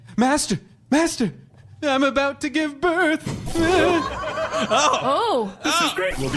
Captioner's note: horrified laughter from the audience and cast